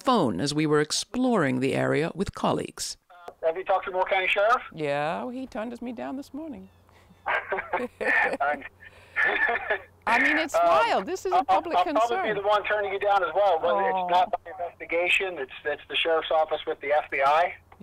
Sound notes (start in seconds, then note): 7.2 laughing